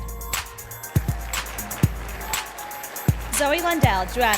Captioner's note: sound of applause and cheering from the audience